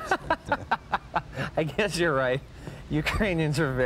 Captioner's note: laughing